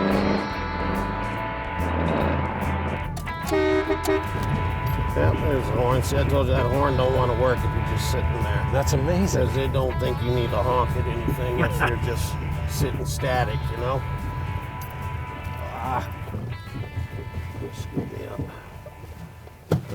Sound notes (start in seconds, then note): 0.1 upbeat music; 3.5 car honks; 11.5 laughs